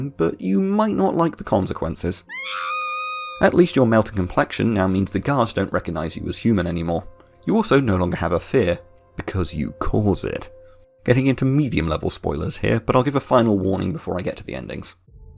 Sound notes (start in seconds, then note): 2.2 scream